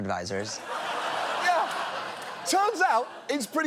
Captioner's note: audience laughs